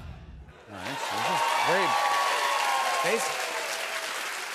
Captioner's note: cheers and applause